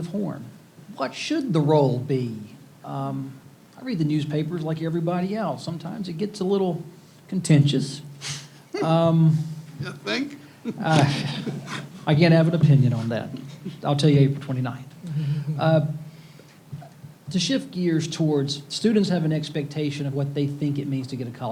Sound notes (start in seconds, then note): 13.6 laughs